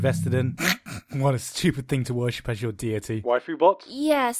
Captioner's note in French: rire étouffé